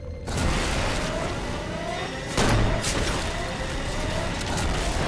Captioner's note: siren blares